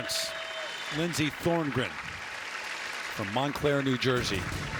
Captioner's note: cheers and applause